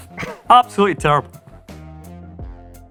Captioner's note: josé laughs